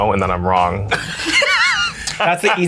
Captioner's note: everyone laughs